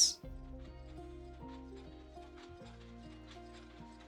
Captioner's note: machine clanking